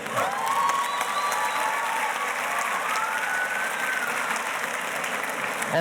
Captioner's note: audience cheers and applauds